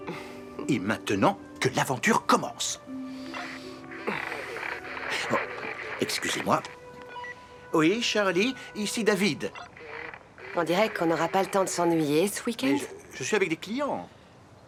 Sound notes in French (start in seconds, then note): 3.8 statique radio